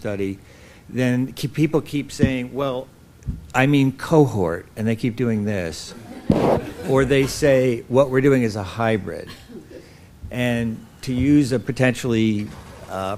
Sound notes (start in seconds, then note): 9.3 laughter